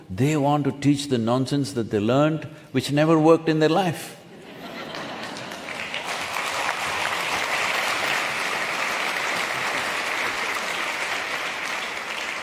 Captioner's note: laughter/Applause